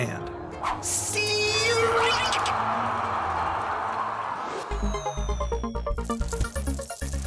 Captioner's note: crowd roars